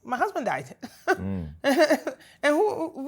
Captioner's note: laughter